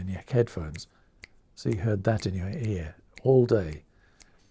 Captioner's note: snapping